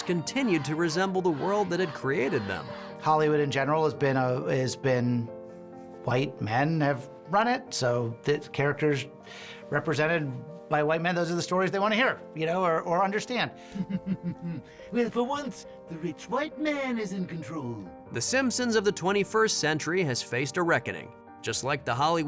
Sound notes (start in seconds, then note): 13.7 laughs slyly